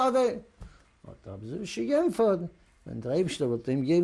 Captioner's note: yiddish